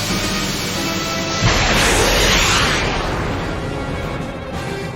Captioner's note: rocket Fires